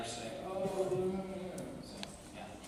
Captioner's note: moaning